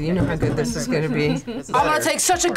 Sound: laughs

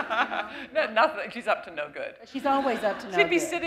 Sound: laughter

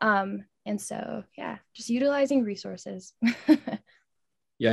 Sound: chuckles

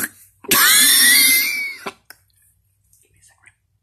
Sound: slurping; wheeze

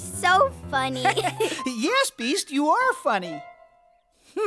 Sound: laugh

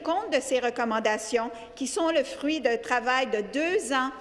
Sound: speaking French

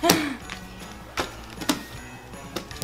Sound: sighs

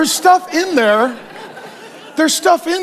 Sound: congregation laughs

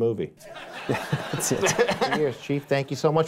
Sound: laughs

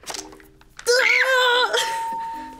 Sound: yells; screams; bell rings

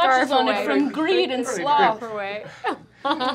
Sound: laughter

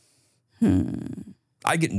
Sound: moans

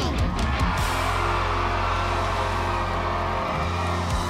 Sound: audience cheers

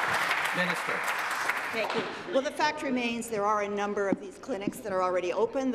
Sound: applause

